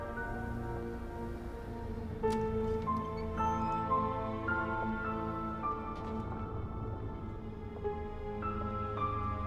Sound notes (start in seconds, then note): 2.7 door latch clicks; 6.2 suspenseful music